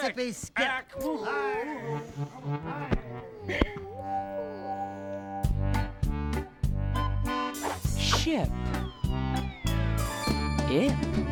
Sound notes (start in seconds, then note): 1.0 whimpering